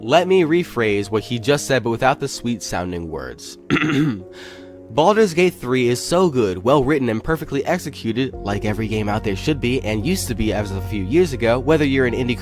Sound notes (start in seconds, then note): 3.7 clears throat